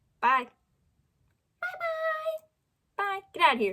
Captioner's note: high pitch